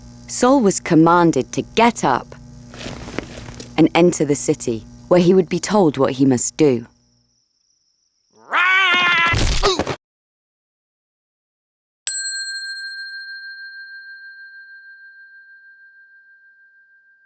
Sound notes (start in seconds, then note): 8.4 Saul roaring; 9.5 Saul thudding; 12.1 bell ringing